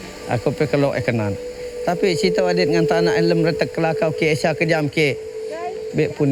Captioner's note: speaking in foreign language